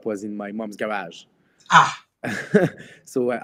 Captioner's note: laughs